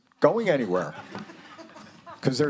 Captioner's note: students laughing